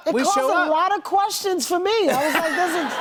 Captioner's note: laughter